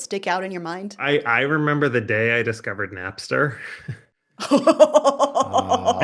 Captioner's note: chuckles; laughing